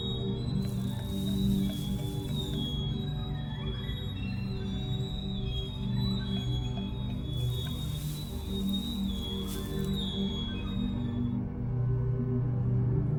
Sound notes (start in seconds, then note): 0.1 vial tapping; 7.3 powder pouring